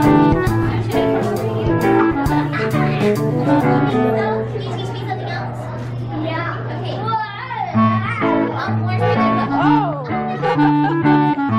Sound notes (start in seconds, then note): 3.2 laughs; 10.3 laughs